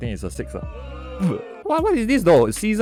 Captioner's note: vomits